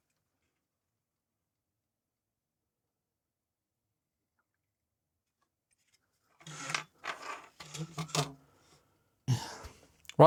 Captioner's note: silence